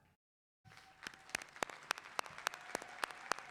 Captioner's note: clapping